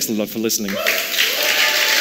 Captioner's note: applause